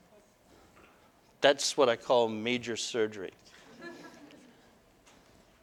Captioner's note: audience: Laughter